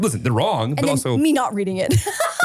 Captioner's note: laughs